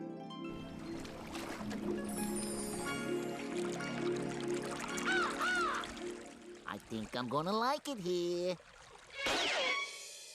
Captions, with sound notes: [water gurgling] [cawing] I THINK I'M GONNA LIKE IT HERE.